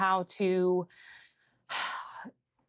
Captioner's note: sighs